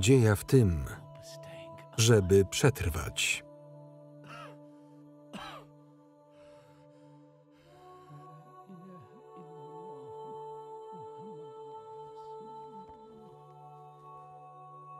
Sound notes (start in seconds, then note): 5.3 coughing